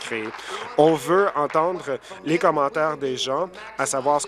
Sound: applause

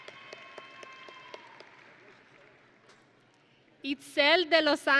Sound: audience and graduates cheering

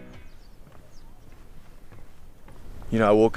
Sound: birds singing

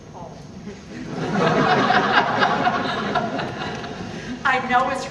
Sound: audience laughing

